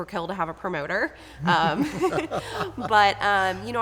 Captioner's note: laughs